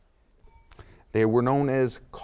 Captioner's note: bell dings